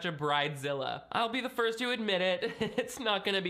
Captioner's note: laughs